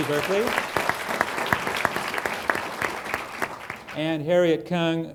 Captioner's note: applause